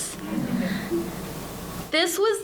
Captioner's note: audience laughing